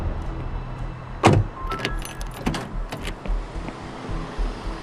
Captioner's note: car door closes